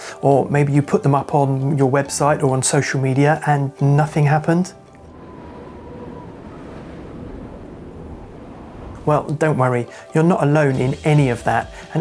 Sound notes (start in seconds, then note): 4.7 wind blows